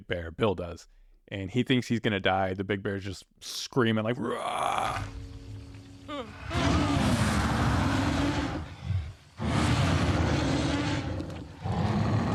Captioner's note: movie clip of bear roaring